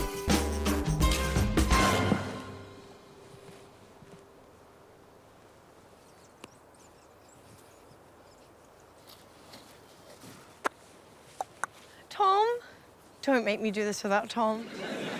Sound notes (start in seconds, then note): 10.6 clicks tongue